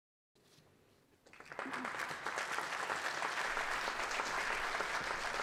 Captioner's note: applause